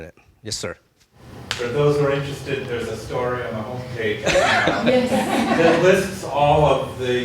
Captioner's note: laughing